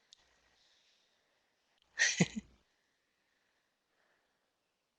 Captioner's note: laughing